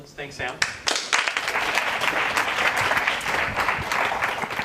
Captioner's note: applause